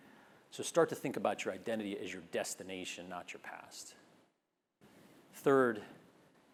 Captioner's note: none